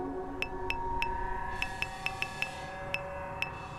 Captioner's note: keyboard clicking